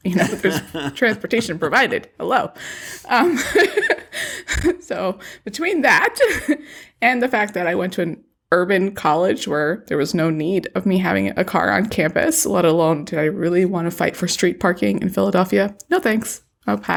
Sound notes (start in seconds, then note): 2.9 laughs